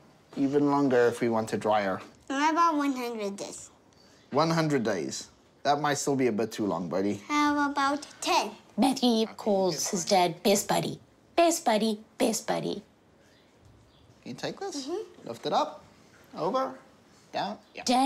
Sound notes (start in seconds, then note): none